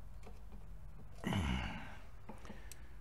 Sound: grunting

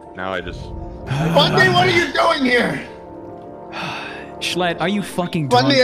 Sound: sighs

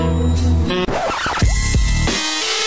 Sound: record scratch sound effect

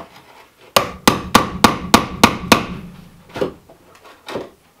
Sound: hammer pounding

